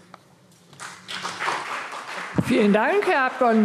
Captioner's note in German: Beifall CDU und vereinzelt BÜNDNIS 90/DIE GRÜNEN